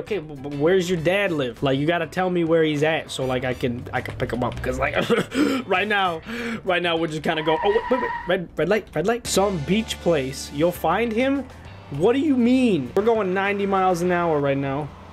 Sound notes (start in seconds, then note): 5.0 cough cough; 7.2 brake sound